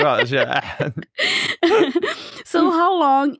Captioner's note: both laugh; laughs